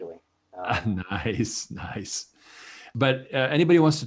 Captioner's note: chuckles